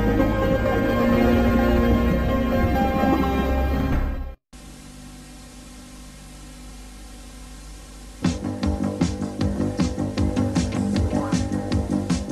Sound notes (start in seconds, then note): 4.6 VHS static; 8.2 80s music plays